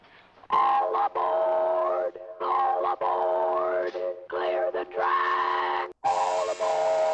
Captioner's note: distorting electronically